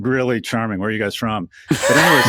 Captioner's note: hosts laughing